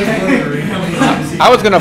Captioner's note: laughter